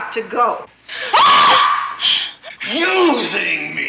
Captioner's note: screaming